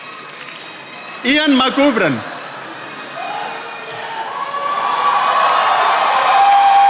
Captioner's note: attendees applauding